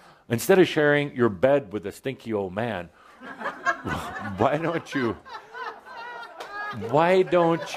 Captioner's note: laughter